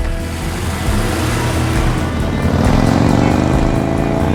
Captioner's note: car engine revving